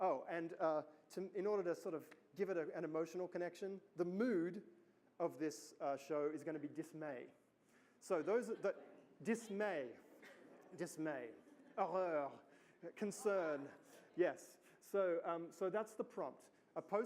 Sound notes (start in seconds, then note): 12.0 speaks foreign language